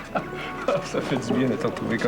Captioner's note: Rire